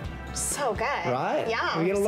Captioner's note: none